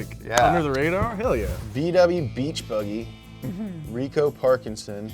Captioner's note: air whooshing